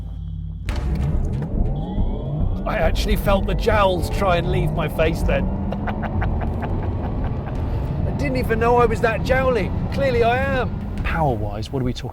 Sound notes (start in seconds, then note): 5.6 laughs